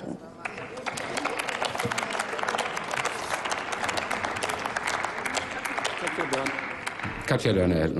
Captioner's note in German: Applaus